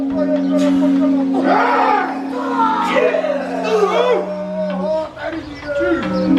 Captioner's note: performers shouting in foreign language